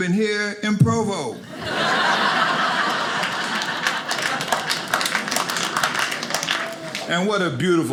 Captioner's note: audience laughing